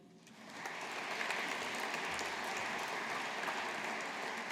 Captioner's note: audience applauding